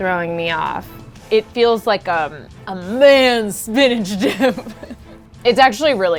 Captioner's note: laughs